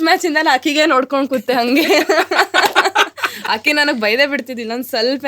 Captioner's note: both laugh